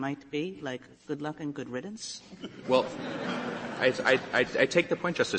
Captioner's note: laughter